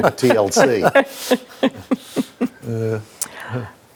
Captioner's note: all laughs